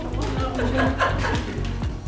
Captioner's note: laughter